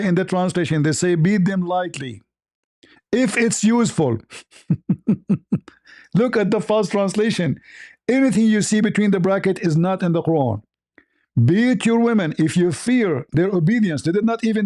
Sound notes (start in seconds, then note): 4.2 ketawa